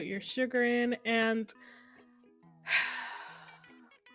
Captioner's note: sighs